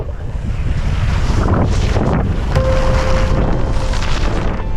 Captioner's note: wind blustering